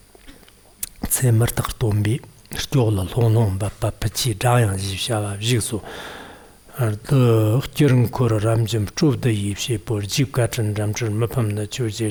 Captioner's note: giving oral transmission in Tibetan